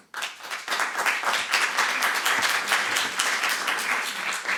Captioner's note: applause